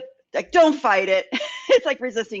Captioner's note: laughs